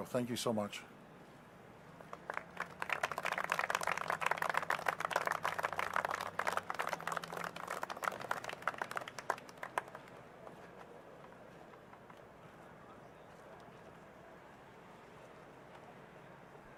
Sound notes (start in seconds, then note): 4.6 applause